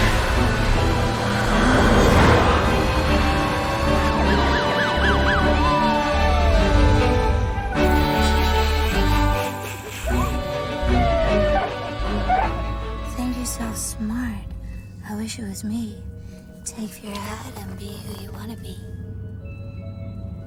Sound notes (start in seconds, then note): 8.0 snickering; 9.6 siren chirping